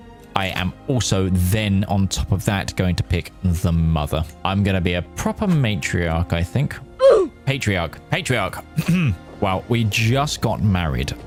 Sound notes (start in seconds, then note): 8.8 clears throat